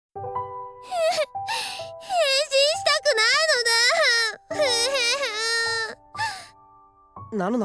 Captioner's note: sob